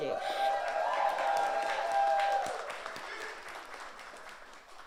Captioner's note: audience applauds